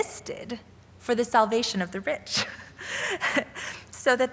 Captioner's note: laughing